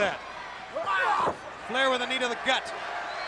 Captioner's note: Sting exclaiming